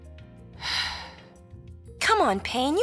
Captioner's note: exhales sharply